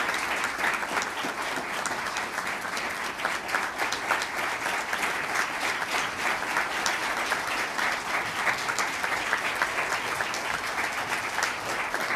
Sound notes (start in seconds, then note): 0.0 applause